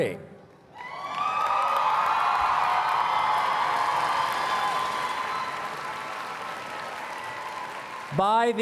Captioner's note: cheers and Applause